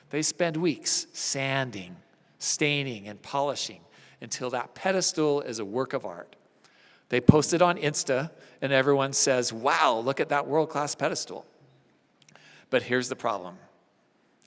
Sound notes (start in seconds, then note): none